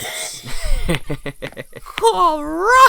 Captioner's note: chuckles